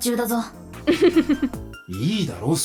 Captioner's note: chuckles